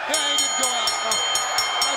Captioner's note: bell ringing